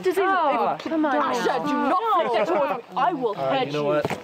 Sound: all chattering

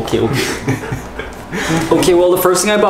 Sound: laughing

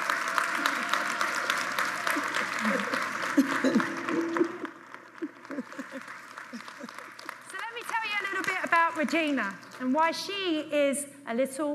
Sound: applause

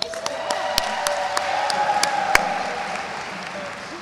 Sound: audience cheers

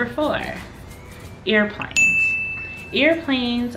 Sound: dinging

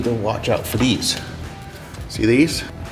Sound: cables rattle

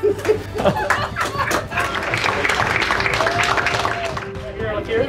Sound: applause

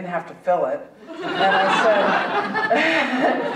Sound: audience laughing

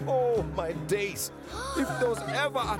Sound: gasps

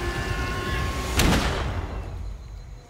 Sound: gunshot

